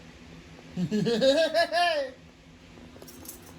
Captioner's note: laughs